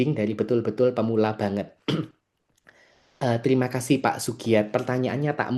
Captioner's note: berdehem